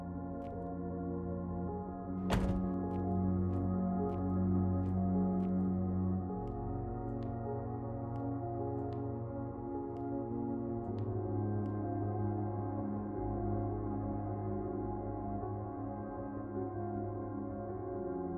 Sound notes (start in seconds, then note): 2.2 car Door Closes